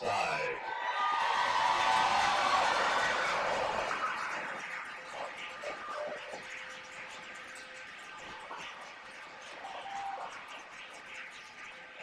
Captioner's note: cheers and applause